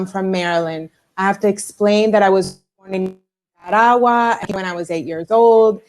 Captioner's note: broken audio